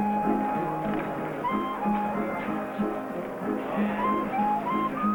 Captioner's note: lively music playing; people chattering